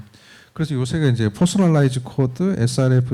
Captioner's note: speaking korean